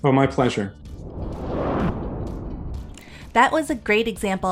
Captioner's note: whooshing sound